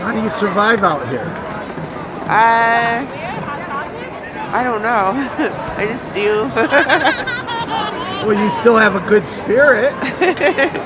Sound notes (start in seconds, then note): 6.4 laughs